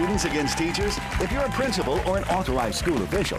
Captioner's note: cheers and applause